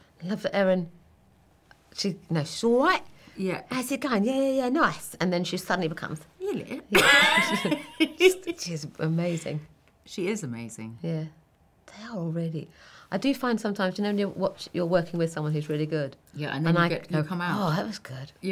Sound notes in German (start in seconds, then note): 6.9 lachen